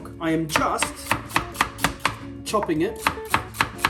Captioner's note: knife hitting plastic repeatedly